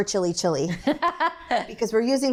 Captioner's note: laughs